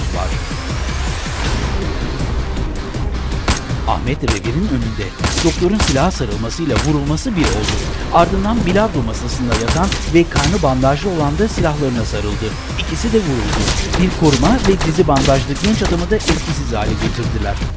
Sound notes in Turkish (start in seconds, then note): 0.1 Müzik - Aksiyon; 3.5 Silah sesleri; 12.7 Silah sesleri